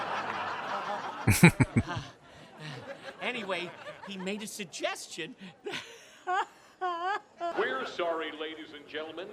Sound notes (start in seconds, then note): 1.2 chuckling